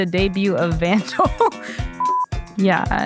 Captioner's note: laughs